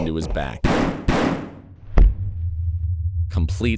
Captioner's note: gun bangs